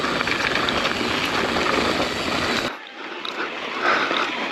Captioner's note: bike clicking